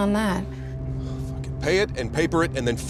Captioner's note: sighs